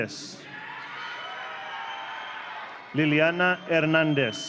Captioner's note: audience cheering